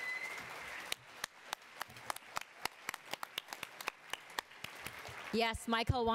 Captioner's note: attendees applauding and cheering